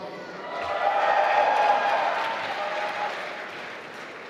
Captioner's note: applause